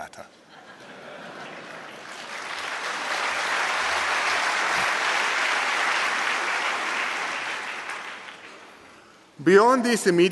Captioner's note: applause